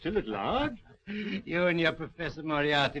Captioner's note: laughing